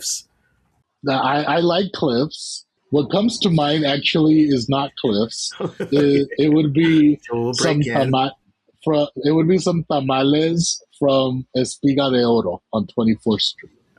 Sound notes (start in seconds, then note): 5.9 laughs